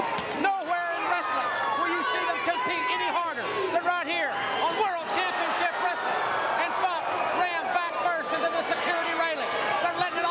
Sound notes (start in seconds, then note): 2.3 crowd chatter